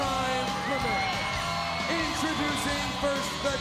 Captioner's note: crowd cheering